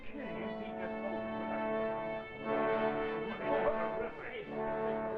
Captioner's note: excited chatter